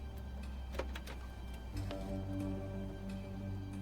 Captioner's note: footsteps disembark; door rattles